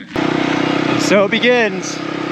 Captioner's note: truck revving